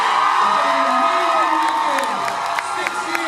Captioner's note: cheers, applauds